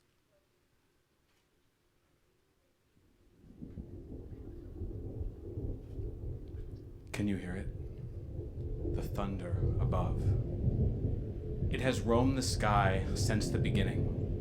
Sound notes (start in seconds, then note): 3.7 thunder rumbling